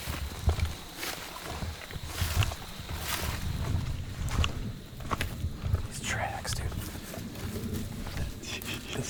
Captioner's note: walking